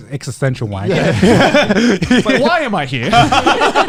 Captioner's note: laughing